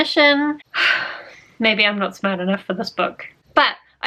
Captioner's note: sigh